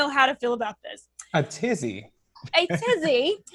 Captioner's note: chuckles; laughs